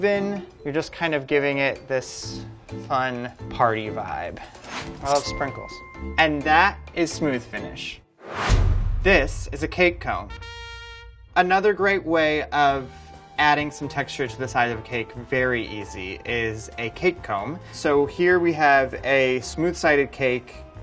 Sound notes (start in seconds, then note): 8.2 whooshing; 10.2 trumpet blares